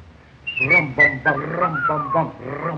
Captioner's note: harpo whistling